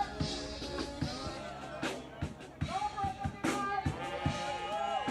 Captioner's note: people protesting; bright music